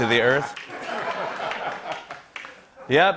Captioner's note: laughter